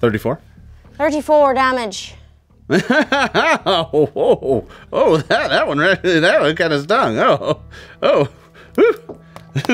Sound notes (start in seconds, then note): 2.7 laughs